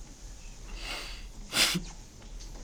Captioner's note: chuckling